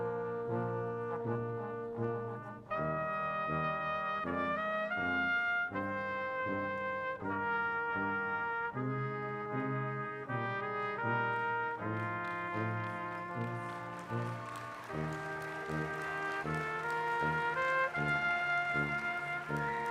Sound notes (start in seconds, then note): 12.0 audience cheering loudly